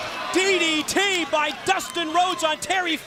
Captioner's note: crowd chatter